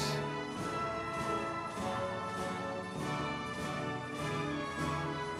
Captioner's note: audience members cheering